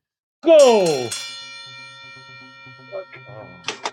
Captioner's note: bell ringing